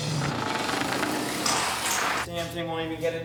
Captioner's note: canvas scrapes